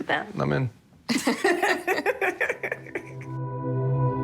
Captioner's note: laughter